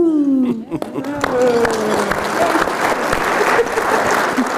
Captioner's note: applause